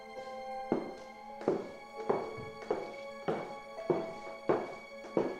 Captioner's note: footsteps clack